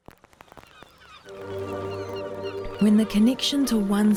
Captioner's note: seagulls calling